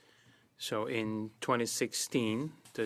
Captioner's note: speaking French